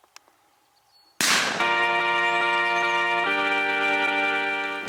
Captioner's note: loud gunshot